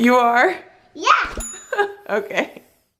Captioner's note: bell dings